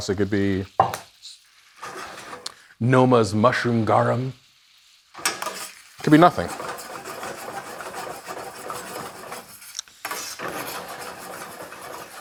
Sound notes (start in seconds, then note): 5.9 pan rasping